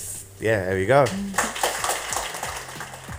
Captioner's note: applause